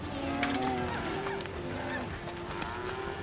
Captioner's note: cattle moo